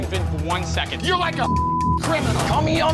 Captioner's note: beep